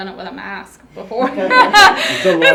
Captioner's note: laughs